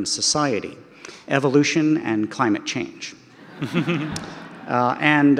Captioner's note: audience laughter